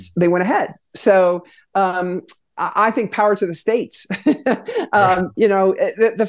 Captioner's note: laughs